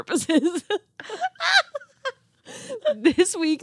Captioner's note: laughing